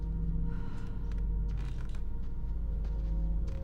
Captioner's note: feet pattering